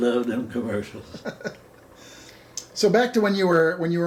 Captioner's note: laughing